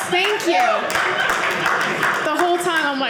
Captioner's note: audience cheering